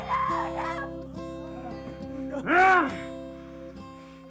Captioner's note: sobs; assailant grunting